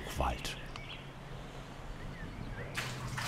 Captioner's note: birds chirping